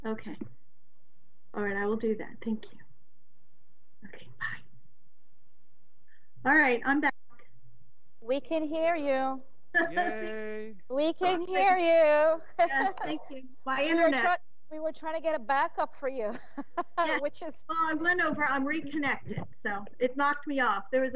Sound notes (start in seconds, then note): 9.7 laughs; 12.2 laughs; 16.2 laughs